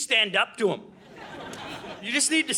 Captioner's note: audience laughing